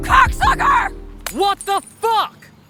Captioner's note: ceramic breaks